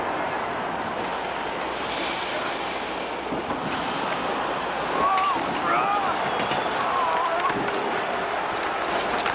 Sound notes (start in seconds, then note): 5.6 groaning